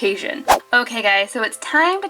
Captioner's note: air whooshing